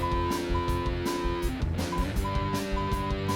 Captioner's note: phone beeping